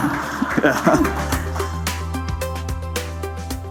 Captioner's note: laughter